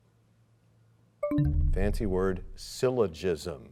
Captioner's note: bell chimes, time expires